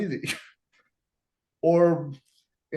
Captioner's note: laughing